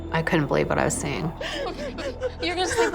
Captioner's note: panicked sobbing